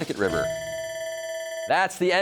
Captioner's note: bell ringing